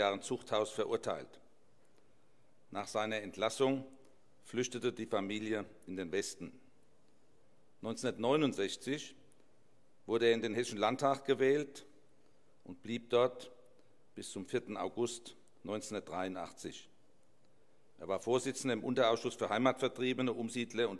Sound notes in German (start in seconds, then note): none